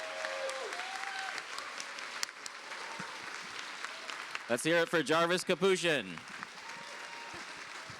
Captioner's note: cheers and applause